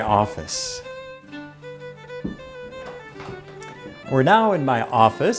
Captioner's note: footsteps; upbeat music